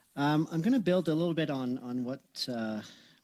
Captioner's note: speaking French